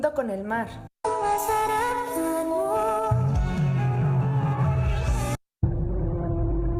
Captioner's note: foreign language